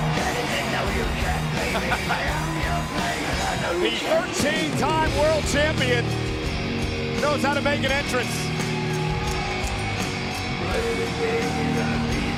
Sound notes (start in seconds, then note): 1.5 laugh